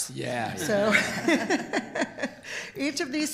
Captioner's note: group laughter